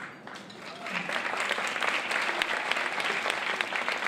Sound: applause

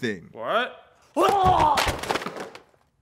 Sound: screaming

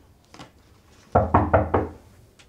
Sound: door knock

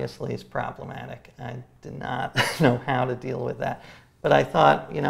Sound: laughs

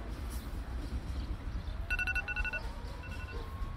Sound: alarm clock

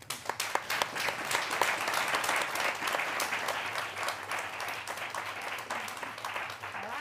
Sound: applause

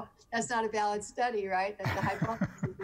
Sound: laughing

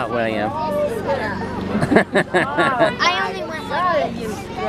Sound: laughs

